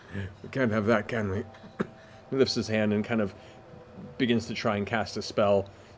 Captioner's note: laughs; coughs